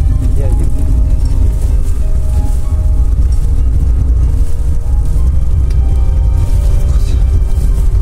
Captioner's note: noise of car on the rough road